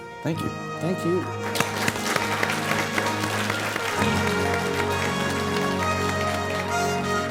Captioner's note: applause